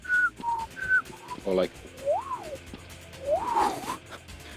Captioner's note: whistling